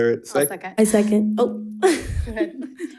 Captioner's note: laughs